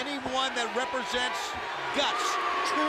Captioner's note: crowd cheering